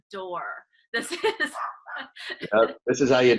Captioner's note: laughing